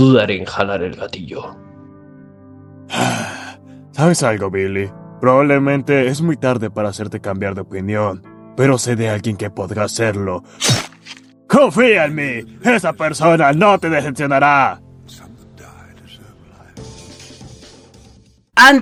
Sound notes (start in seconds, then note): 2.9 sigh